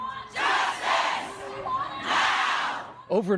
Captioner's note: crowd chanting